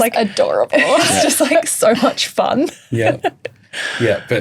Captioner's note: laughs